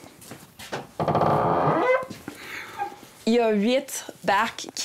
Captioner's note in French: grincement de la porte